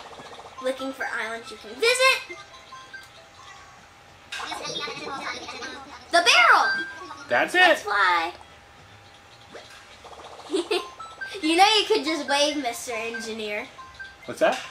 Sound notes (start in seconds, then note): 4.6 Orville chattering; 10.4 chuckles